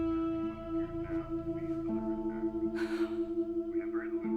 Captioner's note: shaking sigh